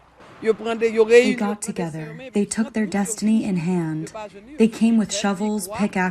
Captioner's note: through translator